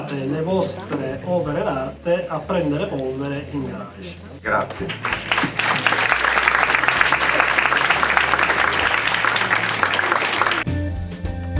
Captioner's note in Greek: Χειροκρότημα